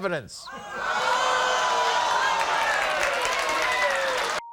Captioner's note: audience cheers